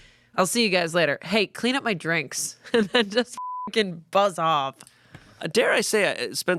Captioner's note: beep